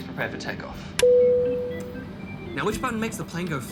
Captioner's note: ping